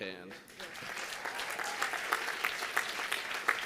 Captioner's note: applause